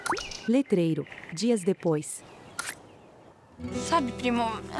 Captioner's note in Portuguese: Pássaros